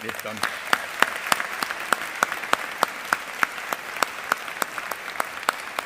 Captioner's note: all applauding